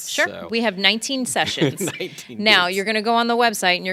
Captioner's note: laughing